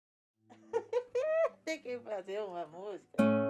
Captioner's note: laughs